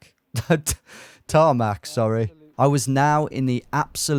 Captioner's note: laughs